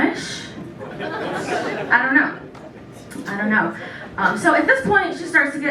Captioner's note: laughter